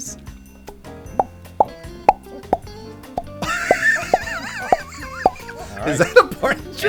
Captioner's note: pop